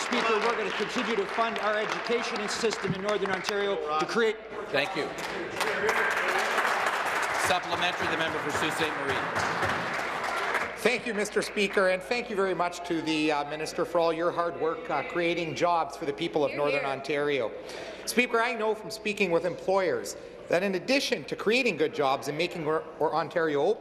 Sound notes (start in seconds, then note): 0.0 applause; 8.6 applause